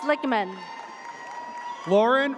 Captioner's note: audience cheers